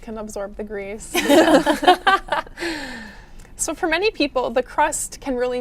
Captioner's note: all laughing